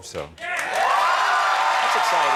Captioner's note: audience applauding